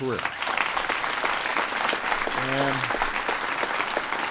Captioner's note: applause